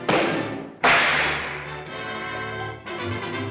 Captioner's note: punch thuds; ropes snap